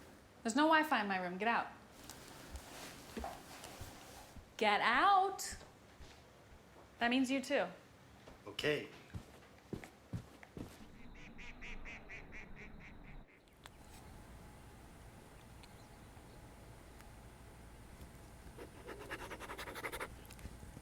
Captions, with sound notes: There's no Wi-Fi in my room. Get out. Get out. That means you, too. [bird cawing] [pen scratching]